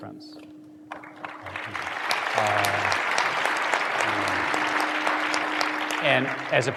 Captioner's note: applause